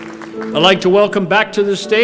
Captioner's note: applause